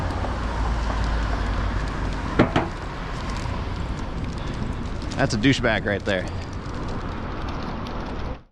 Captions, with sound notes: *Tap*Tap* ✋ That's a douchebag right there!